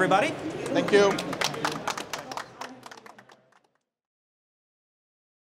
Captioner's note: applause